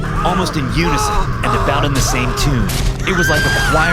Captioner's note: both screaming